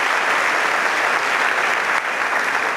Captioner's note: clap